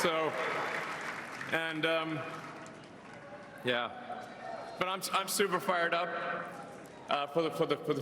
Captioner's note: cheers and applause